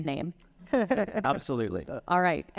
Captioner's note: chuckling